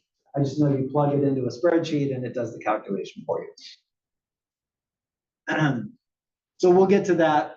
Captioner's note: cough